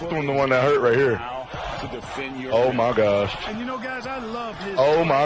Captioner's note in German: Beifall